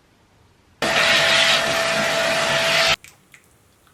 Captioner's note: hoovering